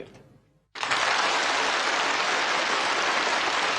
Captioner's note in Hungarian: kitörő tapsvihar